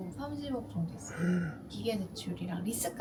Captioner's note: gasps